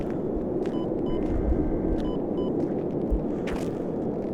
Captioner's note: machine beeps